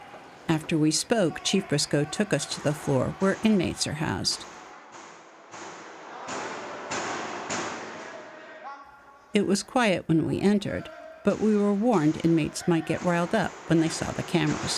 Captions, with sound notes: After we spoke, Chief Briscoe took us to the floor where inmates are housed. (banging on door) It was quiet when we entered but we were warned inmates might get riled up when they saw the cameras.